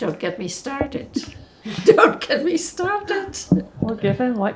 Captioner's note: laughing